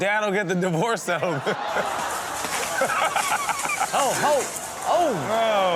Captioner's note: audience gasps and laughs